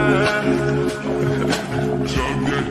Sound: water pouring sounds

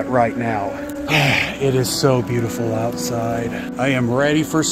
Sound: relieved sigh

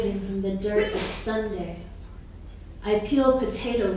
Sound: sneezing

